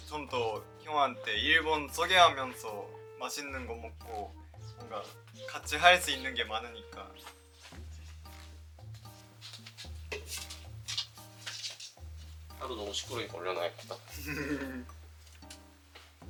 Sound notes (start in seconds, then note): 7.6 sneak sneak x2